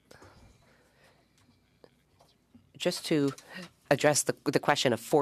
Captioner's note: speaking French